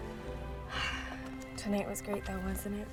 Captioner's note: sighs